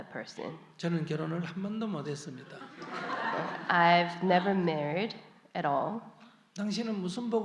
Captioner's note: audience Laughter